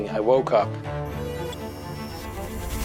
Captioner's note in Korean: 경고음